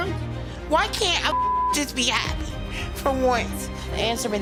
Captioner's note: beep